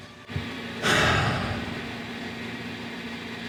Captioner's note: sighs